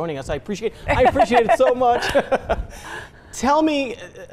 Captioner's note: both laugh